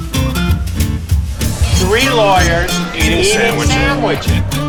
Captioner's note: cheerful guitar music; multiple Voices